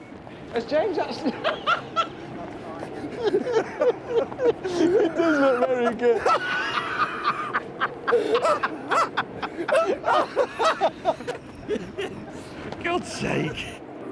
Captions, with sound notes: Has James actually... (LAUGHS) (BOTH LAUGH) For God's sake!